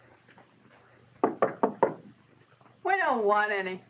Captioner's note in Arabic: سام يطرق